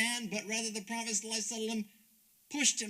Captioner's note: speaks Arabic